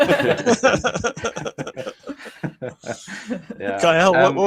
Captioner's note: all laughing